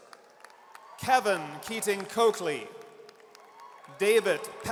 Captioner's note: audience cheers